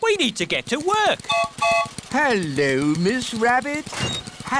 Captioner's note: gertrude's whistle blows